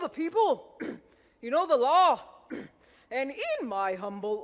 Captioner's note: clears throat; clears throat